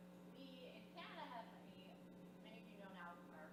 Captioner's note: speaking off audio microphone